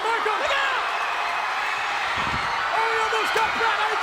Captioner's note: audience cheers